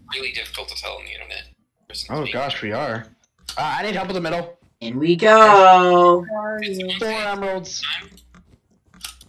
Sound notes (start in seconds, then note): 6.2 general chatter